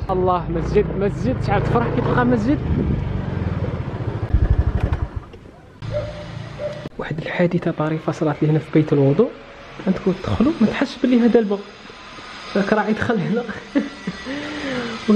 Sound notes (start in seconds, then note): 3.2 engine sound; 13.5 giggles